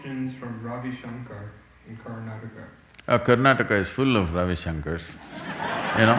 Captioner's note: laughter